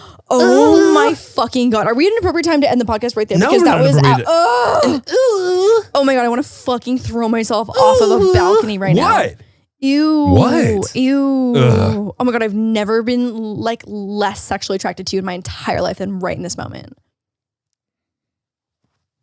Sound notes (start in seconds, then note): 0.3 moaning; 3.3 groans; 5.1 moaning